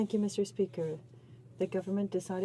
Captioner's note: speaking French